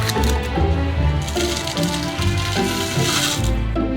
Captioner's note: food pouring